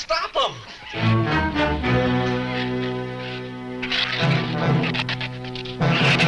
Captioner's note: ominous orchestral music; shrews chatter